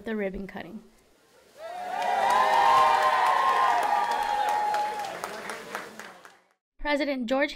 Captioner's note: applause